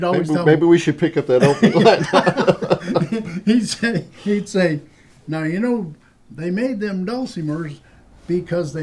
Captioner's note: laughter